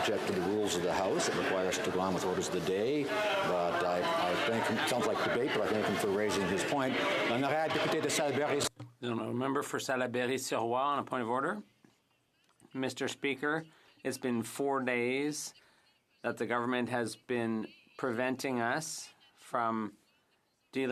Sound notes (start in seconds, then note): 0.2 some Applause; 15.3 speaking French